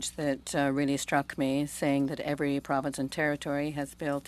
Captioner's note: speaking French